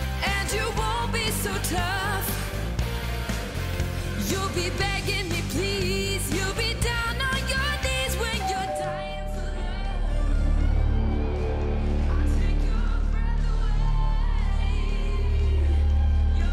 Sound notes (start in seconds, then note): 8.4 doorbell rings; 8.6 ominous music